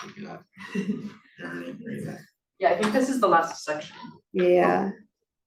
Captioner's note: chuckles